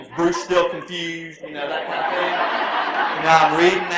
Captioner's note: laughter